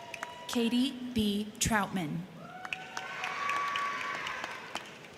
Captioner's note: crowd cheering; crowd cheering